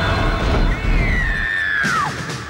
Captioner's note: generator powering down; Anne screaming; rapid tense orchestral music